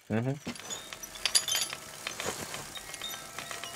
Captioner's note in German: Rascheln, Klingeln